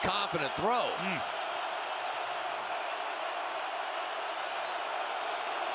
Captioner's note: cheering